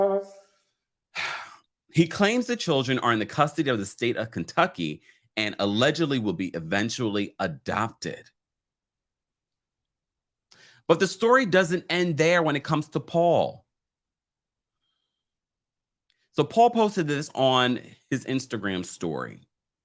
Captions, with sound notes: (sighs) He claims the children are in the custody of the state of Kentucky and allegedly will be eventually adopted. But the story doesn't end there when it comes to Paul. So Paul posted this on his Instagram story.